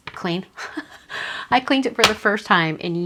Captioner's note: laughs